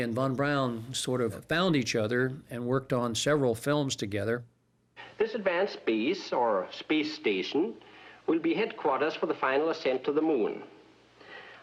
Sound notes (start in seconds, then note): none